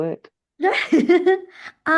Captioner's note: laughs